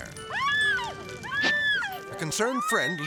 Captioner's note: person screaming